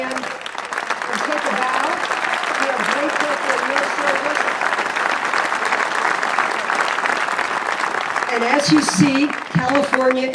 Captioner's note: applause